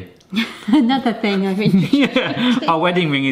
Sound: laughs

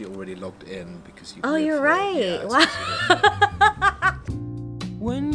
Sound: laughs

